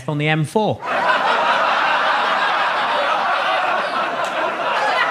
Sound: audience laughing

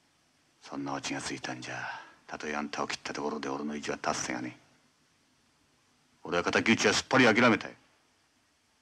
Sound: none

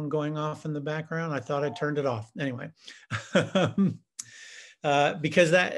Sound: laughs

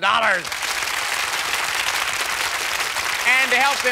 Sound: applause

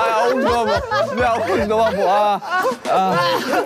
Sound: while someone is laughing

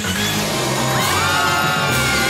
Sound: screaming

